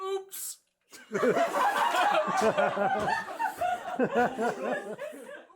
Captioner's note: everyone laughs